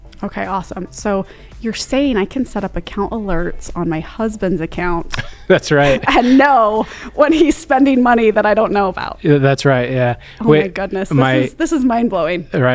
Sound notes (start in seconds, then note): 5.0 laughs